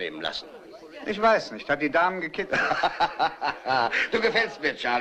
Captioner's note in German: lacht